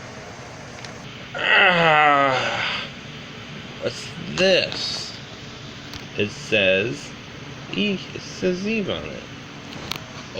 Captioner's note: exclaiming